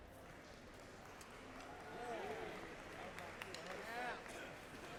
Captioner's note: crowd applauds and cheers